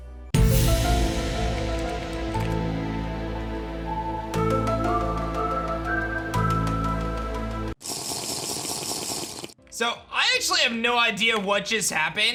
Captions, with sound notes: (mysterious music) (drinking noise) So, I actually have no idea what just happened.